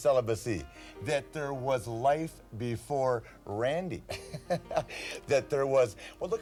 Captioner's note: laughs